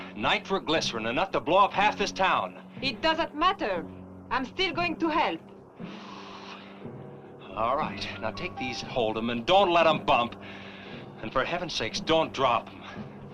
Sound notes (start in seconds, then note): 5.8 sighing